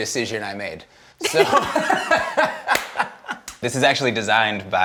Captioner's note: both laugh